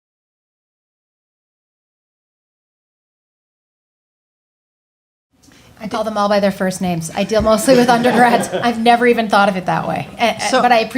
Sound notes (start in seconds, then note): 7.5 group laughing